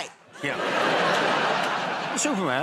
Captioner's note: laughter